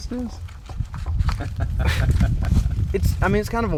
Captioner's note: laughing